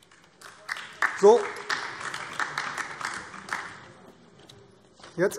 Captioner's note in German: Beifall AfD